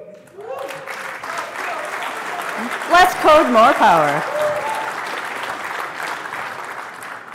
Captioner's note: applause